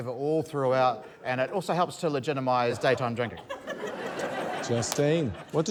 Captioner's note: laughter